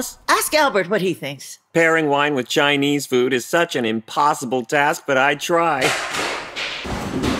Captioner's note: banging from upstairs